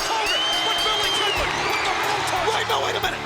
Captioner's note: presenter speaking faintly off mic; bell dinging